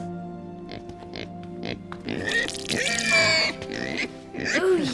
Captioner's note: pig squeals and wet sound